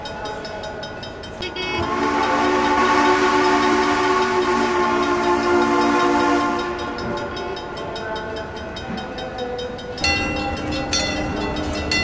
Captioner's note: CNJ Blue Comet Pacific whistle, wig wag ringing